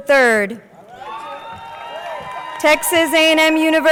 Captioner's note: crowd cheering